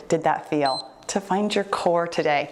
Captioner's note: timer beeps